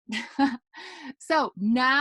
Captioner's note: chuckles